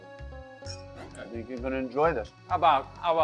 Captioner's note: glasses clink